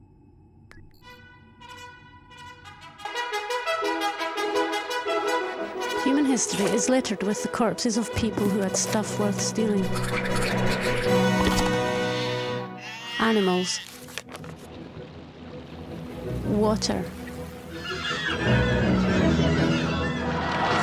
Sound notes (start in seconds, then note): 0.7 upbeat instrumental music; 9.6 arrows whooshing; 12.0 sheep baaing; 14.0 water splashing; 17.6 animals shrieking